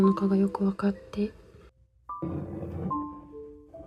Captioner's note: sound of dishes being moved